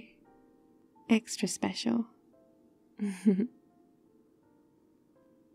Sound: laughs

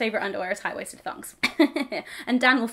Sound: chuckles

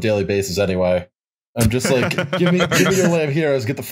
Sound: laughter

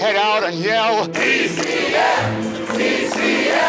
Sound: crowd chanting

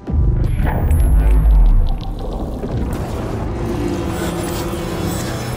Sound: shrill electric noises

